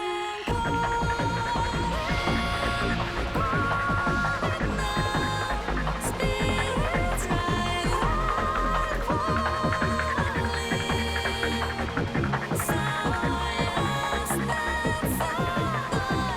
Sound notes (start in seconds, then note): none